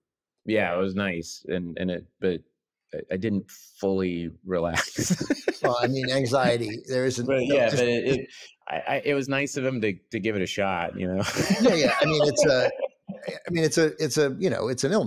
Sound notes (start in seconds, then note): 4.8 laughs; 11.2 laughs